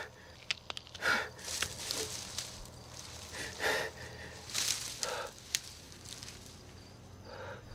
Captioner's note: crackling of bones; leaves and branches rustle